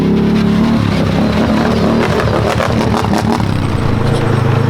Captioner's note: ATV engine roaring